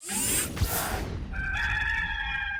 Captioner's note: robotic whirring; rooster crowing